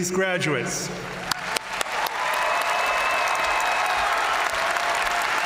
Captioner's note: audience cheering and applauding